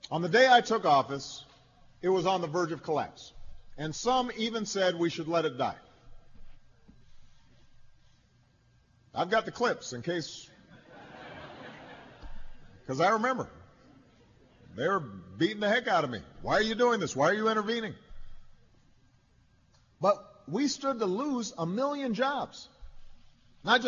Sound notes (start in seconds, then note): 10.6 laughter